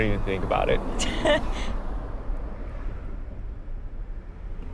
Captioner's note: laughing